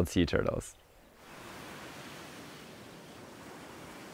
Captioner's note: waves crashing